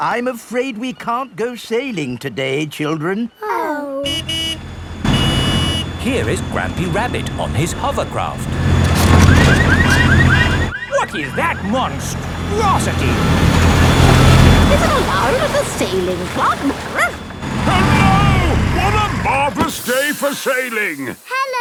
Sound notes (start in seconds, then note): 5.3 honking; 9.3 car alarms blaring; 17.2 barks